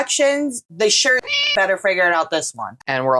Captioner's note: meow